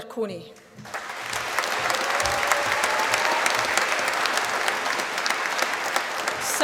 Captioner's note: applause